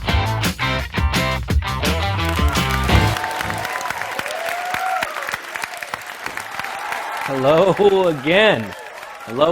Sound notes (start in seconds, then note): 0.0 bright upbeat music; 2.0 audience cheering